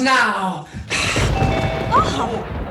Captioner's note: thunder